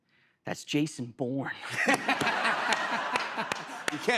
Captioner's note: laughter